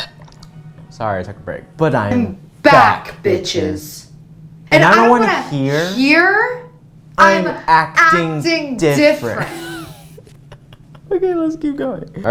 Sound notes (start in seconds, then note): 9.3 laugh